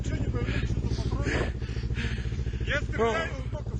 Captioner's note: breathing heavily